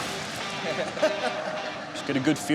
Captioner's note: laughing